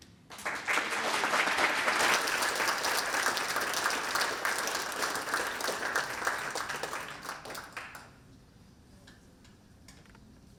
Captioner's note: applause